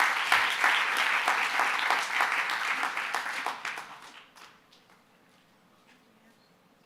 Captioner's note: applause